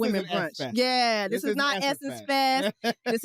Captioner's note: laughs